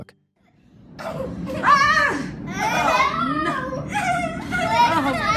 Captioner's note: kids laugh